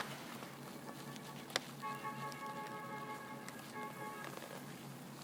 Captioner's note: the sound of horns tooting